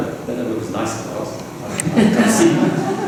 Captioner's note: laughter